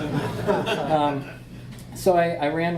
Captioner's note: audience laughs